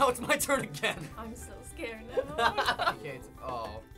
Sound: laughs

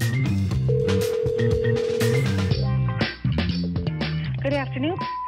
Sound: line trills

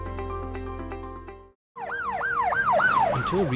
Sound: sirens blaring

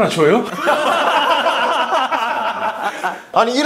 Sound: hahaha

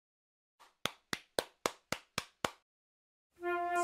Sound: claps

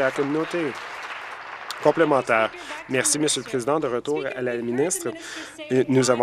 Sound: applause

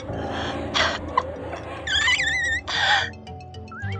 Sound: laughing and squeaking

